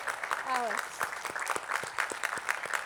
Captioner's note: attendees clapping